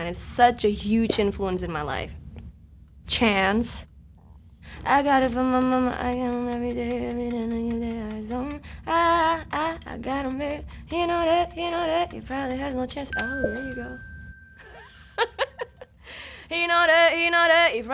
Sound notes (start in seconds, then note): 4.9 humming; 14.7 laughs